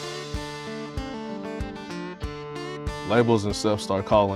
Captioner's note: none